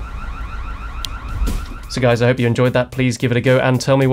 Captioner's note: basket thumps